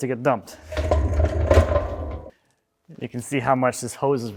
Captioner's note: wheels rattling